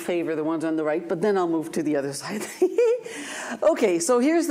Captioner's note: laughs